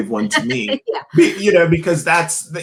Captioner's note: laughs